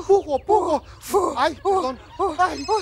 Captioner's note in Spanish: Risas